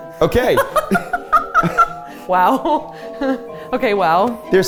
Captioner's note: laughs